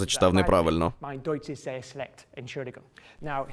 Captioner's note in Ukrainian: Говорить німецькою